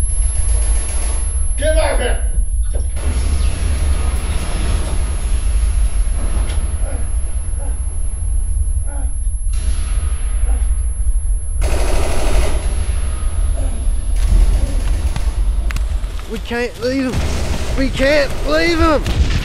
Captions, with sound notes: (gunshots booming) - Get him back there! (Allan groaning) - We can't leave him, we can't leave him!